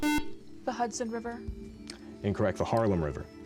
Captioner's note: buzzer